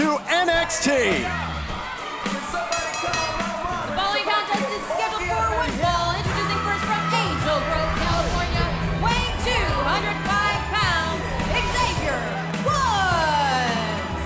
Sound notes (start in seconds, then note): 4.7 bell